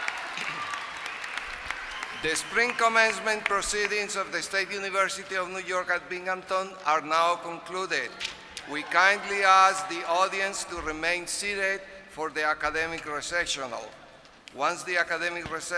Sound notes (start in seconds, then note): 0.0 applause